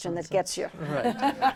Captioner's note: laughter